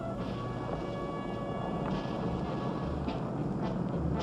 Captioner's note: engines rumble